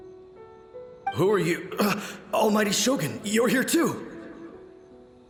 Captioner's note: gasp